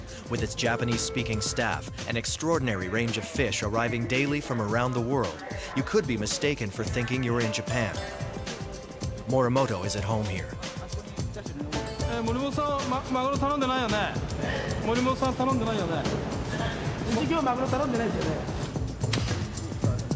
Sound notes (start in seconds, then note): 11.7 speaking in foreign language